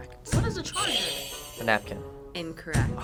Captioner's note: buzzer rings